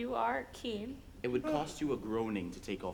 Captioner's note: Polonius yawns